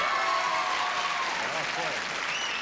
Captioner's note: cheers and applause